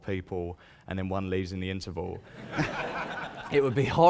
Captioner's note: laughter